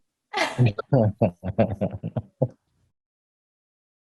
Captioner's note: Desi & Roy laugh